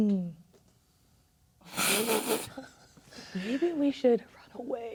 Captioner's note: players laughing